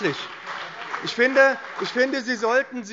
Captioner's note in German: Beifall BÜNDNIS 90/DIE GRÜNEN und vereinzelt CDU